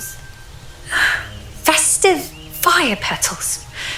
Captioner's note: sigh